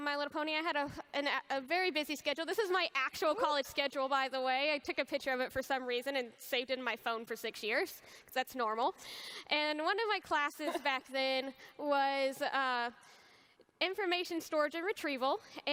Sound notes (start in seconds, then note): none